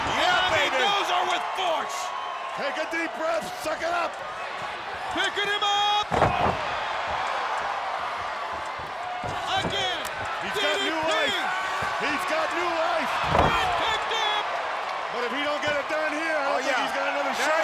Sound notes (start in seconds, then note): 6.6 spectators cheer